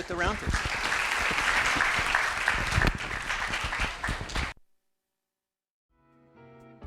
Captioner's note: applause